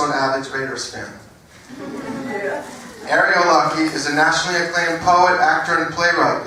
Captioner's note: laugh